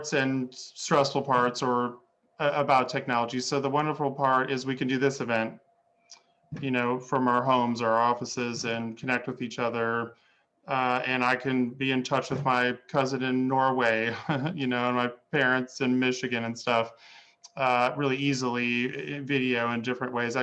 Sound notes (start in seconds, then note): 14.1 laughing